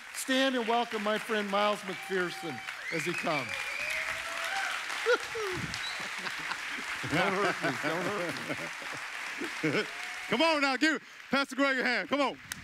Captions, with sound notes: stand and welcome my friend Miles McPherson as he comes. (audience clapping) Woohoo, (chuckling). - Come on now, give Pastor Greg a hand, come on.